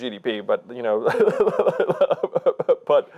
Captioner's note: laughing